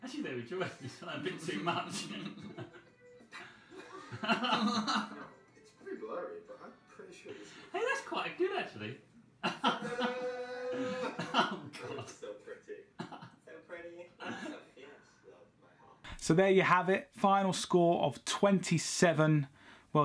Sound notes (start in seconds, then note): 3.3 laughs; 9.4 laughs